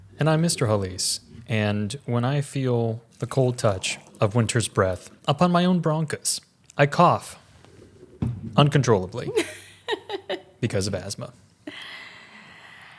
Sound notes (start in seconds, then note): 9.3 laughs